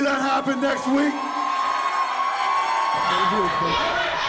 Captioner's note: crowd cheers